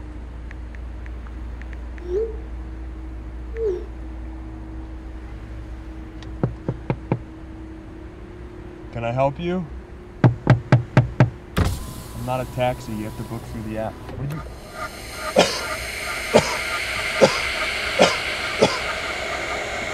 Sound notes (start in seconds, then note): 0.4 texting; 6.5 knocking; 10.2 knocking; 11.5 window rolls down; 14.4 suspenseful music; 14.6 coughs